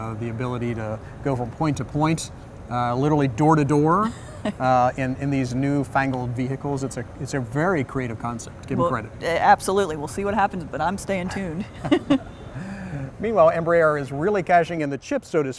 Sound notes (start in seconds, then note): 11.3 laughs